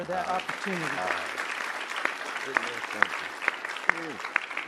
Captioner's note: audience applauding